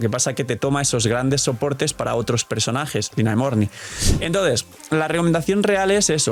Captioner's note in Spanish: resoplido